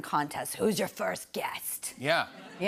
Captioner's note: raspy voice